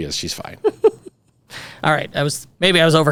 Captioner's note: laughing